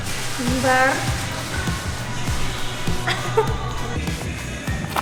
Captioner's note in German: Lachen